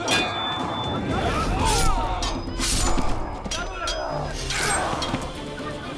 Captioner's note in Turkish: Bağırma sesleri